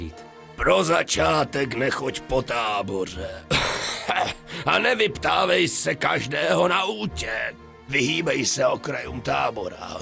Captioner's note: cough